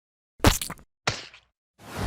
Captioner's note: paint splodge sound effect; zoom Sound effect